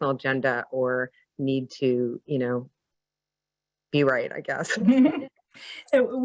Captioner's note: chuckles